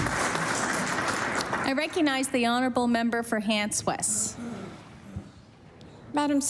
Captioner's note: applause